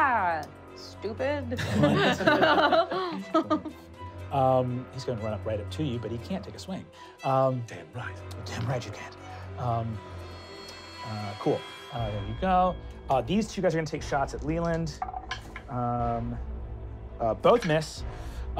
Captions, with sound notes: - Aha, stupid! (laughing) - He's gonna line up right up to you but he can't take a swing. - Damn right! Damn right you can't. Cool. There you go. These two guys are gonna take shots at Leiland. (rolling dice) Both miss.